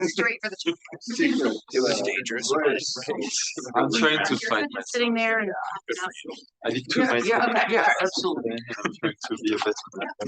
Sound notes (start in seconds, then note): 0.1 audience chattering